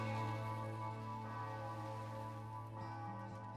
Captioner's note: bell ringing